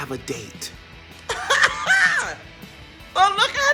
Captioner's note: impressed laugh